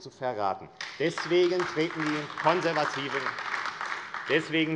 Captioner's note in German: Beifall AfD